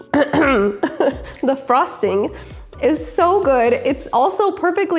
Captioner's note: clears throat